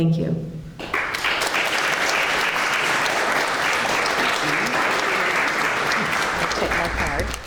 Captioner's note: clapping